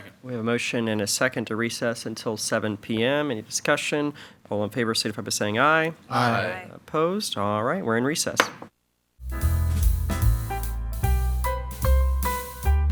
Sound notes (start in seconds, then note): 8.4 gavel pounds; 9.2 slow blues music